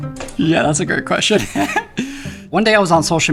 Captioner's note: laughs